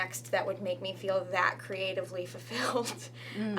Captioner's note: laughs